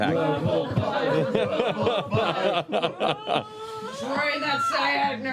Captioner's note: chanting